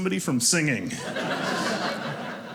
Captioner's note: audience laughing